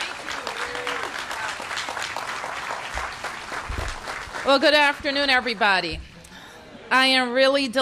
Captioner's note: applause